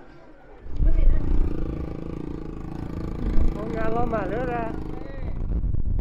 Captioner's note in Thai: หัวเราะ